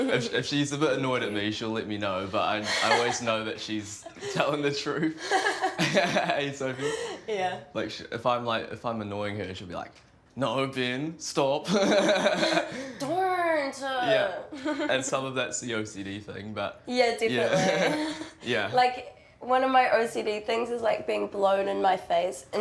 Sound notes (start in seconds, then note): 5.0 both laugh; 11.8 laughs; 13.8 chuckles; 17.4 laughs